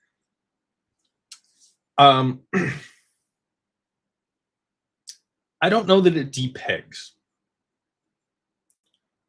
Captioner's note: clears throat